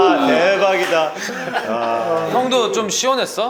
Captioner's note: tears again